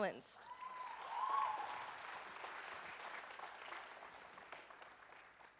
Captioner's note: audience cheers and applauds